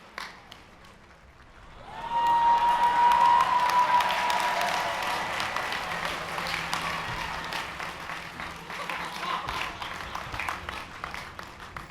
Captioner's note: cheering